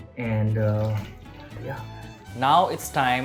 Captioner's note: water pouring